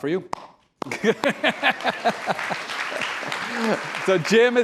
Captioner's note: applause